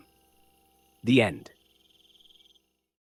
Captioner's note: pause